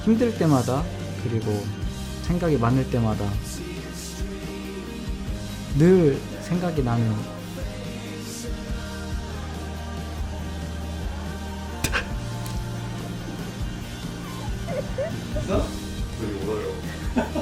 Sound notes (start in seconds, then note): 11.6 sobbs; 15.3 laughs?